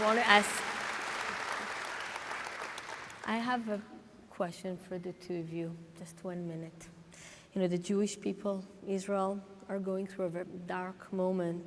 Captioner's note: applause